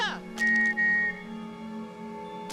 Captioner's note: whistle